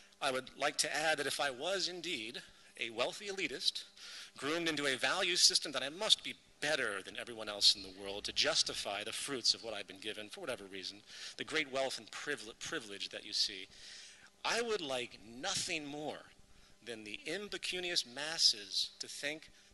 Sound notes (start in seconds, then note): none